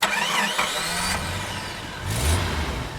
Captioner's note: engine starts; engine revs